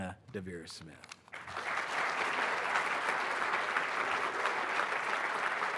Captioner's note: audience applauding